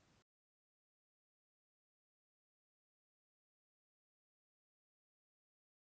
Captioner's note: silence